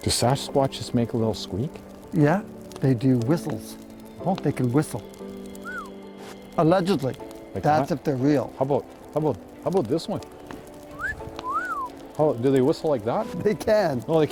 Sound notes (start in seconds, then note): 5.5 whistles; 10.9 wolf whistles